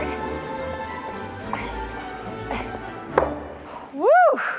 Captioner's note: grunting